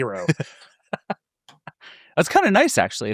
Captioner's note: laughing